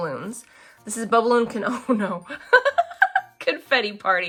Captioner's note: laughs